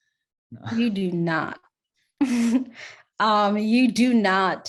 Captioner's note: chuckles